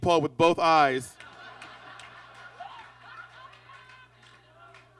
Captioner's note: audience laughs